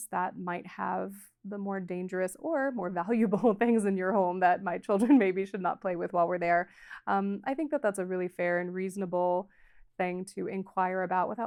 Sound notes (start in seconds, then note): 5.0 chuckles